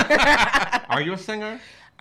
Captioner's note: laughing